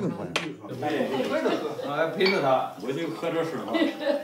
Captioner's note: men speak in Chinese language; woman laughs